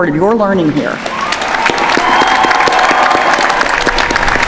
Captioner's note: applause